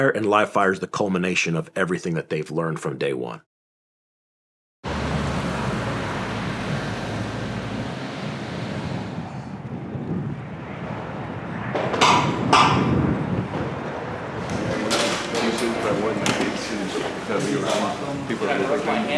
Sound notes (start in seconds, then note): 5.3 engines humming